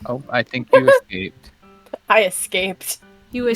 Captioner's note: laughs